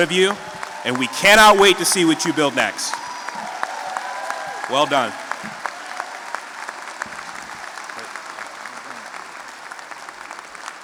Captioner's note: applause swells; more applause